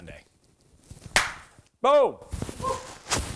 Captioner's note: claps